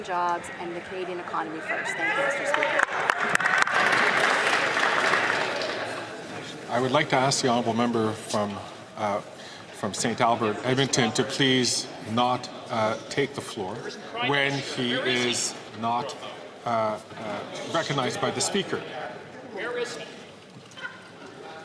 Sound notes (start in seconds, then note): 8.0 some Applause